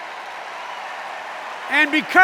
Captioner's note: applause